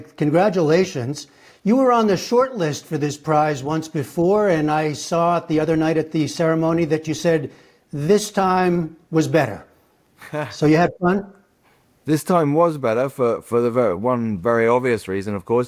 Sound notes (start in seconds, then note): 10.2 laughter